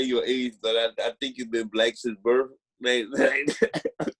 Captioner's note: laughing